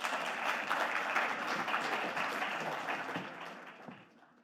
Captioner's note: audience clapping